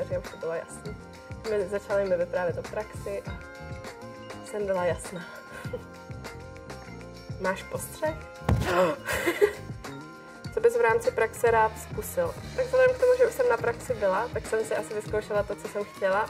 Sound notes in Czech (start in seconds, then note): 9.0 smích